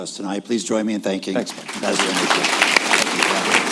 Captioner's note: applause